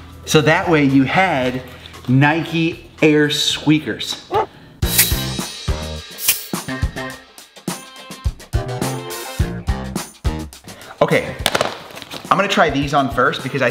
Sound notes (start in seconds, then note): 4.3 dog barks; 4.8 upbeat music